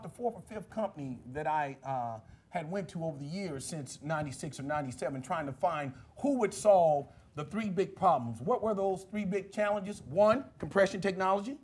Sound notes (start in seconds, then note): none